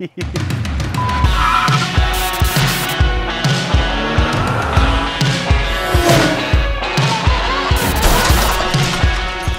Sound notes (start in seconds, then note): 0.0 laughs; 0.1 upbeat music; 3.5 car engine revving